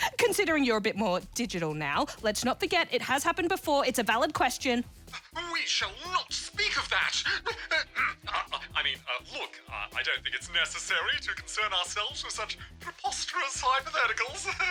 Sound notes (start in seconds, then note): 5.9 splutters nervously